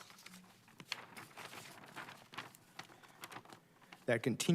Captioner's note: pages rustle